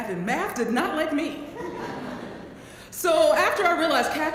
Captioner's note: laugh